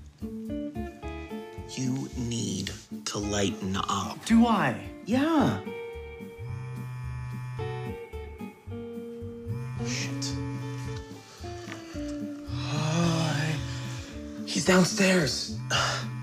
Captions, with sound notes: You need to lighten up. Do I? Yeah. [PHONE VIBRATES] Shit. He's downstairs.